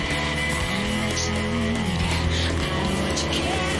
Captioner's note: people clamoring